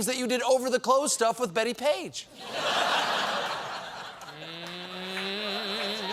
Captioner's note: laughter